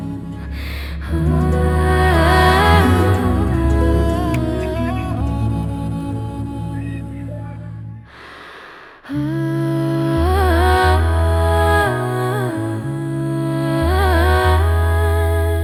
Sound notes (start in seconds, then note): 2.3 singing; 8.1 sighs and gasps